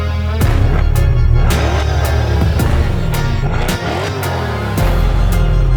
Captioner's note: upbeat musiC; car engine revving; upbeat music